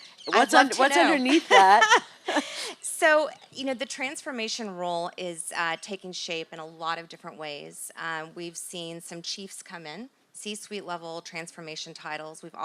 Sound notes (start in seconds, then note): 0.3 laugh